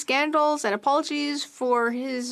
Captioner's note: speaking FRENCH